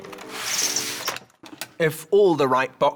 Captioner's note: whooshing